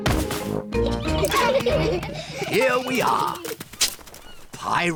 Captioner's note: all giggle